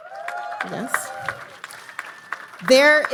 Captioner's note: audience applauding